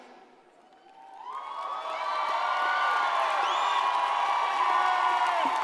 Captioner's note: audience cheers and applauds